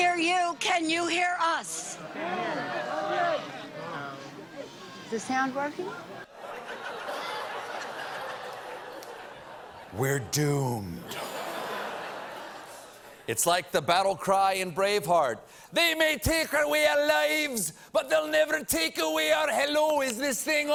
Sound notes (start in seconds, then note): 6.2 laughter; 11.0 laughter